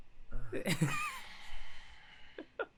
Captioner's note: deep sigh